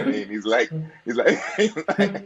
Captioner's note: laughs